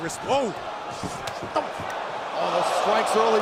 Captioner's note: crowd cheering